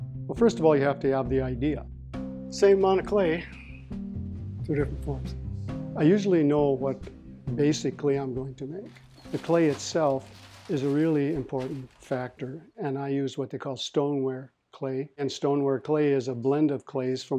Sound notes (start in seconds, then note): 8.8 plastic rustles